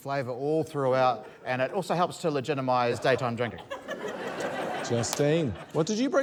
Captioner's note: laughter